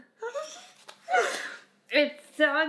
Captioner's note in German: lacht